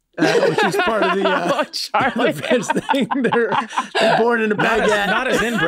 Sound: group laughs

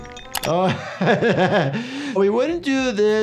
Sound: laughing

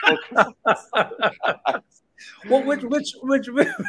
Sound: both laughing

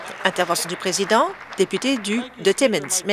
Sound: applause

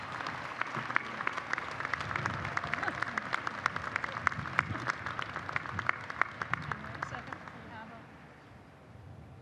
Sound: applause

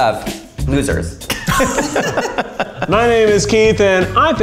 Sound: all laughing

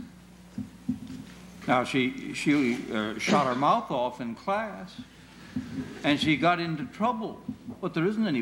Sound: laughter

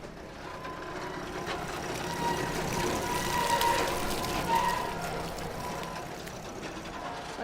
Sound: horrible scraping noises

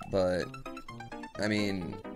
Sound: death audio

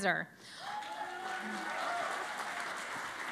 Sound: cheering and Applause

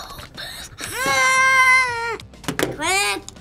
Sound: screams

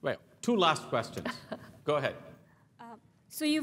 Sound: laugh

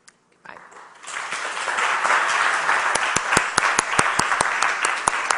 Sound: audience applauds

